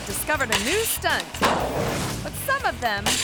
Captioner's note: metal clanks